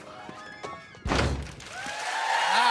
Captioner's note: cheers and applause